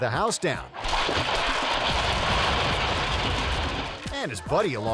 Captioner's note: bricks clattering